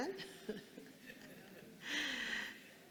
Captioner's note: laughs